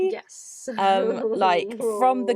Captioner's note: laughs